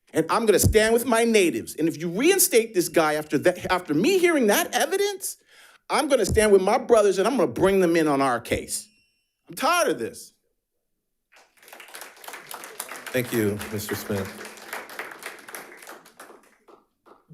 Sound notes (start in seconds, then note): 11.3 audience applauding